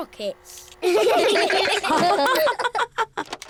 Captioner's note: all laugh